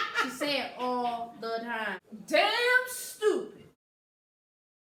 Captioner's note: laughs hysterically